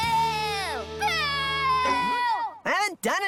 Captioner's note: poof!